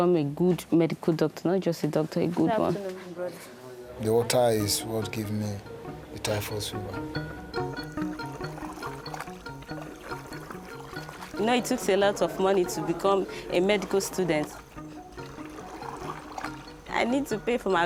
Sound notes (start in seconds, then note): 6.7 gentle instrumental music; 8.0 water lapping